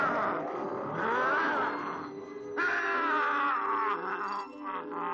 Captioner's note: werewolf groaning